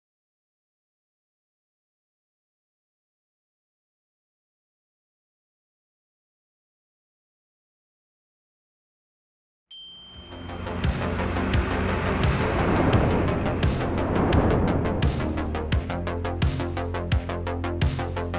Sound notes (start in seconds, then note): 10.1 upbeat music; 10.4 truck engine revving